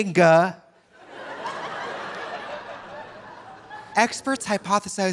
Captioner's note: audience laughing